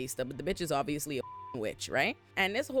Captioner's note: beep